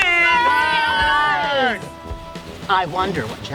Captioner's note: campers cheering